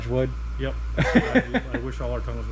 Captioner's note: camera person laughs